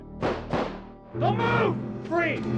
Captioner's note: gun bangs